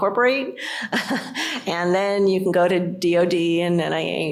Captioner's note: laughter